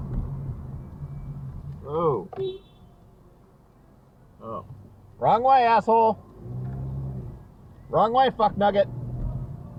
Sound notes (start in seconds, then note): 1.0 beep!